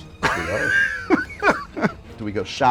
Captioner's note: laughter